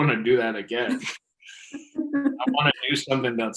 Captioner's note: laughing